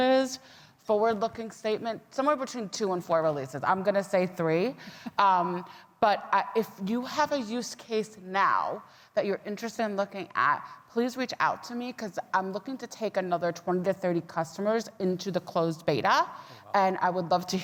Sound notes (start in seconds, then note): 5.0 laughing